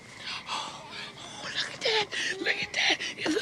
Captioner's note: gasping